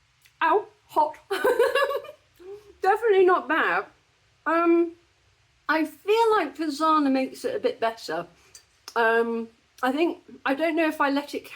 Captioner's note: laughing